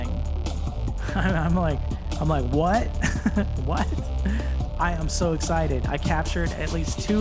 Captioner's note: laughing